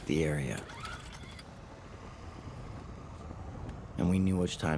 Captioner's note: chord zips